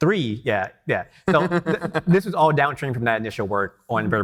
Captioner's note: laughing